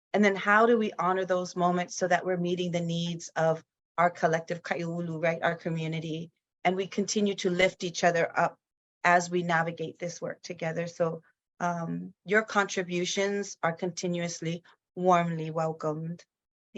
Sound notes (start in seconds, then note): 4.1 speaks in foreign language